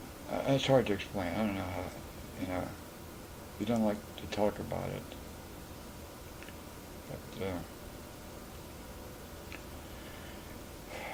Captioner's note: sighs